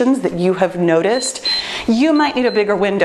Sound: timer beeps

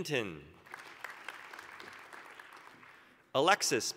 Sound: applause

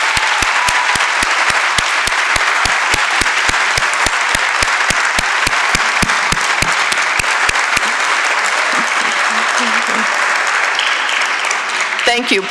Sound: applause

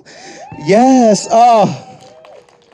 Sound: audience and cheering

